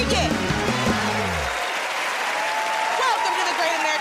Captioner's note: cheers and applause